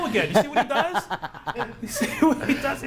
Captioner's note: laughing